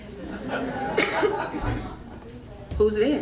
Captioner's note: crowd laughing